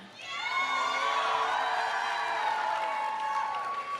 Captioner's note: audience cheering; audience applauding